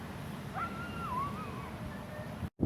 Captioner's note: dog yelps